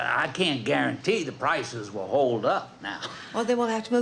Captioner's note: laughs